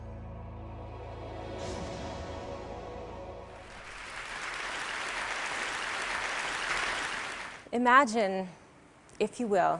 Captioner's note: applause